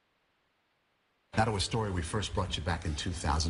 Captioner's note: voiceover